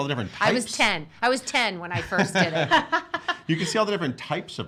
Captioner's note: laughing